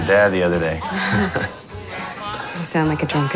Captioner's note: both chuckling